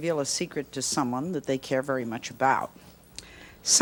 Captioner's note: none